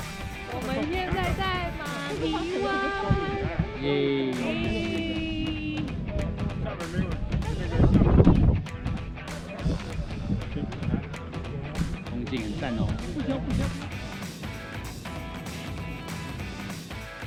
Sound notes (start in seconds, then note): 11.2 laughs